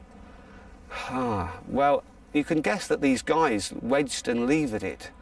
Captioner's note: sighs